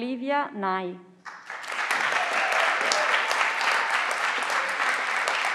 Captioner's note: everyone claps